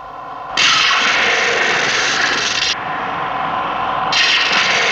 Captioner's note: eletricidade crepita